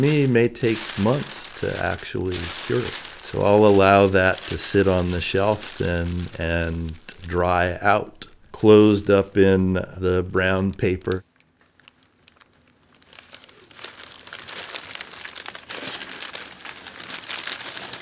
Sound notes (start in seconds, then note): 13.8 paper crinkling